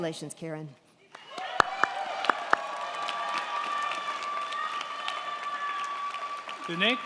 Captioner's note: crowd clapping; crowd cheering